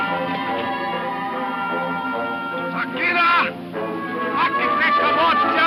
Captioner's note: speaks in foreign language